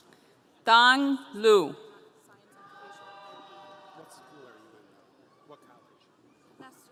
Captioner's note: audience cheering